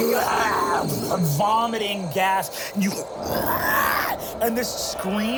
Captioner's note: croaks